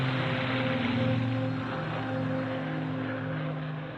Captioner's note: jet engine roaring